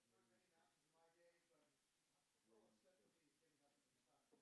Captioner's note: speaking off the mic